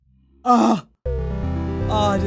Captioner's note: relief sigh